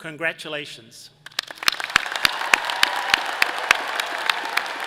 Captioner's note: all applauds